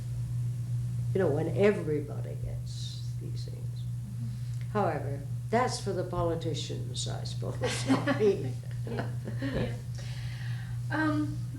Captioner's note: laughter